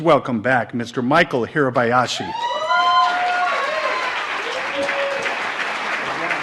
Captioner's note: audience applauds